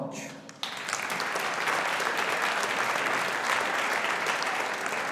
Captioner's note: audience applauding